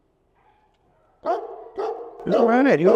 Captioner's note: dog barks